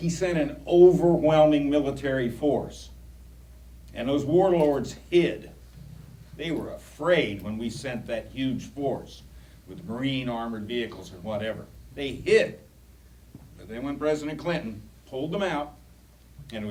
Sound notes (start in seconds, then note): none